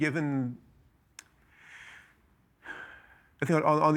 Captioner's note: inhaling, exhaling sharply